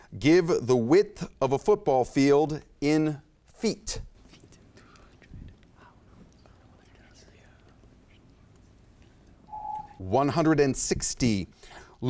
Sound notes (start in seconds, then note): 9.5 timer beeps